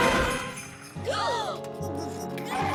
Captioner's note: both gasp